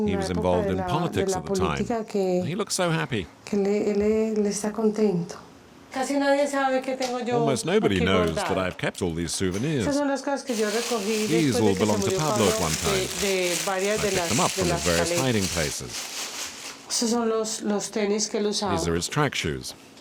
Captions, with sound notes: He was involved in politics at the time. He looks so happy. [Spanish spoken audio] Almost nobody knows that I have kept all these souvenirs. These all belonged to Pablo at one time. I picked them up from the various hiding places. These are his track shoes.